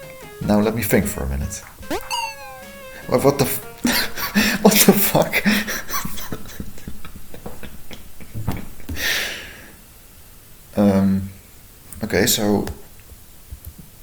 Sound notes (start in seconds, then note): 4.4 laughing; 5.2 laughter